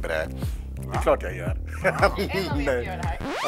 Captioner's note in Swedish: skratt